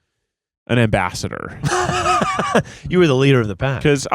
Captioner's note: laughing